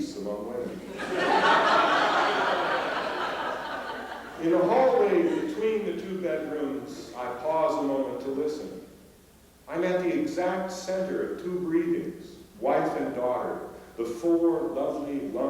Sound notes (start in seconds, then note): 0.7 laughter